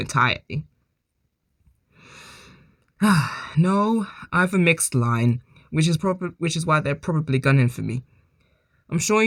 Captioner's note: sighs